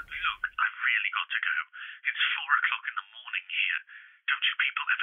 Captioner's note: on phone